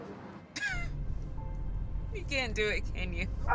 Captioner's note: Dana laughing